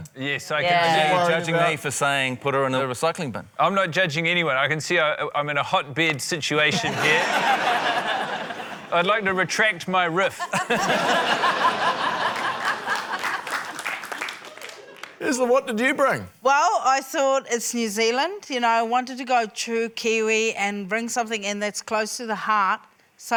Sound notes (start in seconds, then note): 6.7 laughter; 10.3 laughter; 12.2 applause